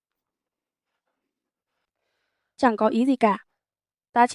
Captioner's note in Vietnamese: none